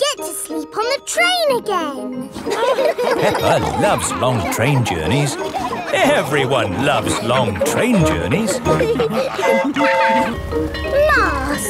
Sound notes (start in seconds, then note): 2.6 laughing; 9.0 bell ringing; 9.4 train whistle toots